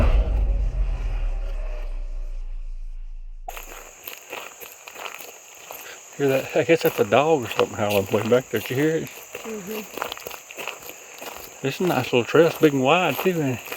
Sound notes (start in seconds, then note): 0.0 suspenseful music; 4.1 leaves crunching